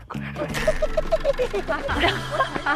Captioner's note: the undercover is laughing madly